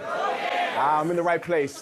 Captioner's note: audience chanting